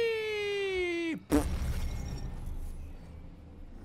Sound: fart sound with his mouth

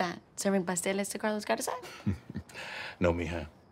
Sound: chuckles

